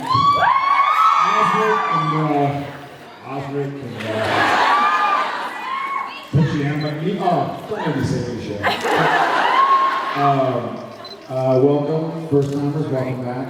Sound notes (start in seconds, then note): 0.0 cheers, applauds; 4.0 laughs, cheers; 8.6 laughs